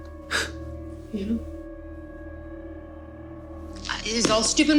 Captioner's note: Michael scoffs